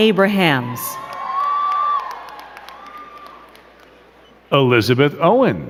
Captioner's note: crowd cheering and clapping